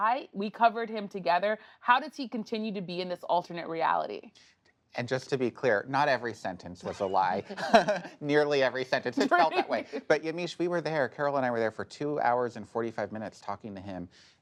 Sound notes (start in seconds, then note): 6.9 laughter